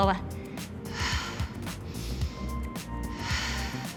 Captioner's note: breathing deeply